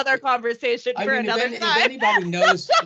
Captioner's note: laughing